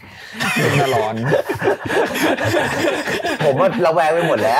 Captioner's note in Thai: หัวเราะ